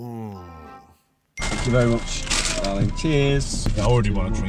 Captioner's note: register ringing